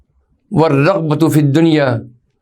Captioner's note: Arabic